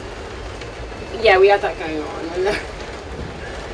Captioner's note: chuckles